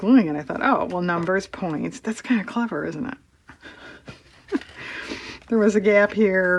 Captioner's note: laughs